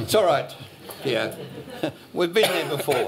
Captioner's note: laughter